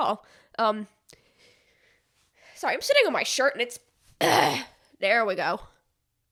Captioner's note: clears throat